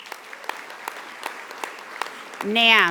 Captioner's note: audience applauding